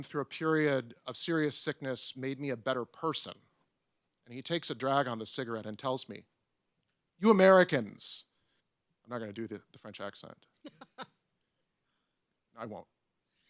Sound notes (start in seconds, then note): 10.6 person laughs